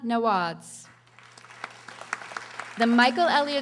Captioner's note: audience applauding